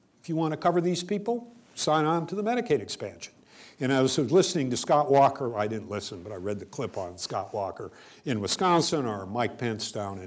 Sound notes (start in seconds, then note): none